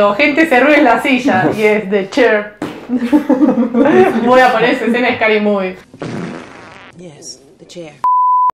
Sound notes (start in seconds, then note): 5.8 fart noise